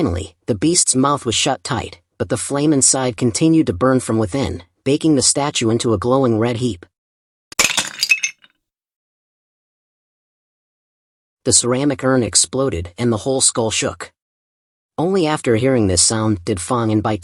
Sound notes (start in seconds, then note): 7.5 ceramics breaking